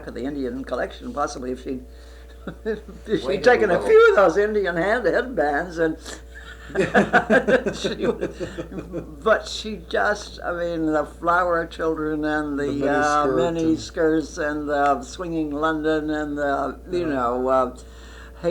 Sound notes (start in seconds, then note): 3.4 laughs; 6.3 laughter